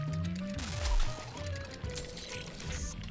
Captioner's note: electricity crackling; glass breaking